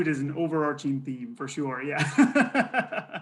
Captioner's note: laughs